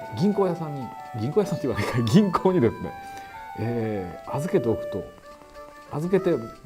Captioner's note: laughing